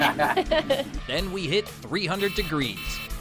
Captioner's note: laughing; buzzer buzzing